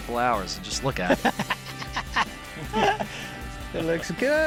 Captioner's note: laughs